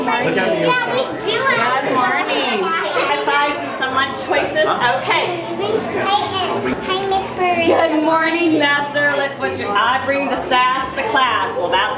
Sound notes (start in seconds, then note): 0.0 children chattering